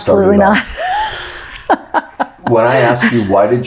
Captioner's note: laughs